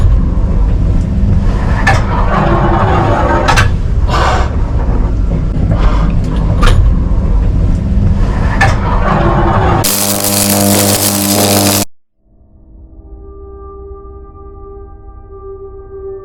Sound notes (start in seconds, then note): 9.8 electric spark; 12.2 ominous music